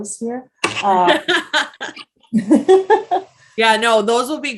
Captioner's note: both laugh